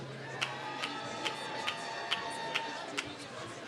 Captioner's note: applause